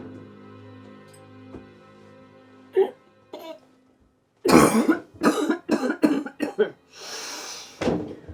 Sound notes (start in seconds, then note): 2.9 Betsy coughing